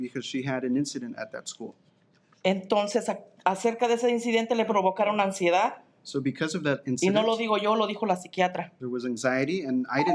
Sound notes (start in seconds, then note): 0.0 speaking in Spanish; 2.9 speaking in Spanish; 7.5 speaking in Spanish